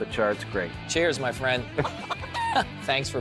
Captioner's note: chuckles